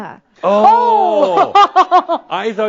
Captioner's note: laughs